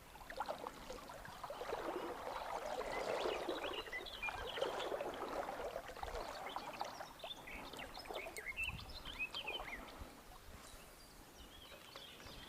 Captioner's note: birds singing